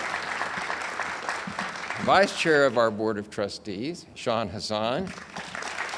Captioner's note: audience applauds